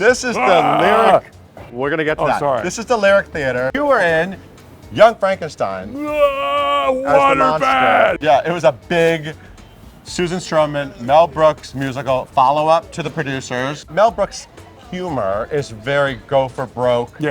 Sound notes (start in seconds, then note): 0.4 Shuler growling; 5.9 Shuler bellowing